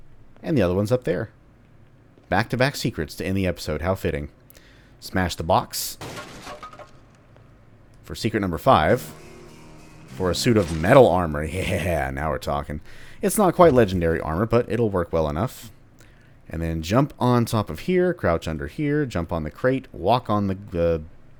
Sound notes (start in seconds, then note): 6.0 smash; 8.6 riff plays